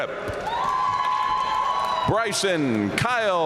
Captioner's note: audience cheering and applauding